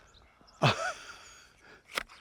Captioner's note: chuckles; clippers snipping